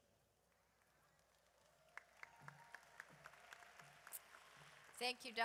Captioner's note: audience applauds